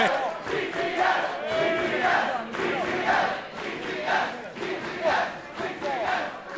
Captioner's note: fans chanting